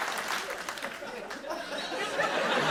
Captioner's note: laughter